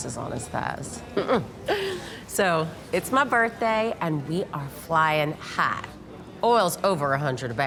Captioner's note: chuckles